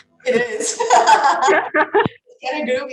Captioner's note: both laughing